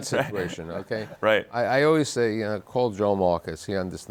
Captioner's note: guests laughing